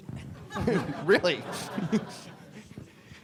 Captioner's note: audience laughs